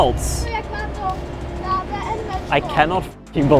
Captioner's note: child speaking in foreign language